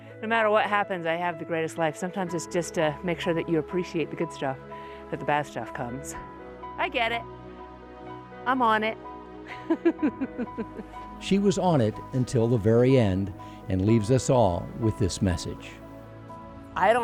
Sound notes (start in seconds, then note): 9.6 laughing